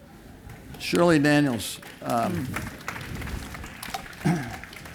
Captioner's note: applause